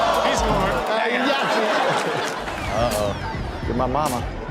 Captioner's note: crowd laughs